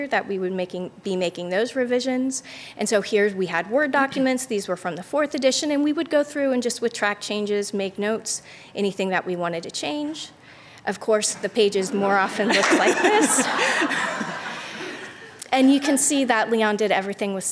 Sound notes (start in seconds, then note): 13.5 laughter